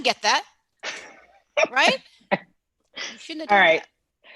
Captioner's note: laughs